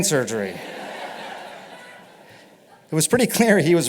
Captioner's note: laughter